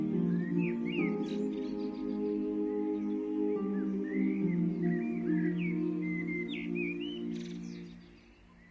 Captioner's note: blackbird singing